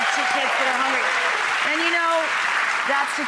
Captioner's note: applause